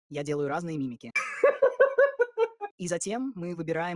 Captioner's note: laughs